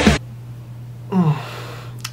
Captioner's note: sigh